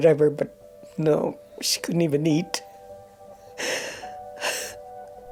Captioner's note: sobbing